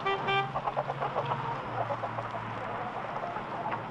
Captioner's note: horn honking